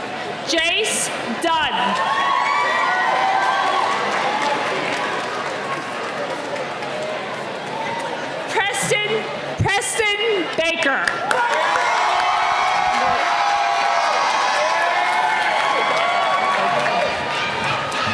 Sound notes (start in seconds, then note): 1.8 cheering; 11.1 cheering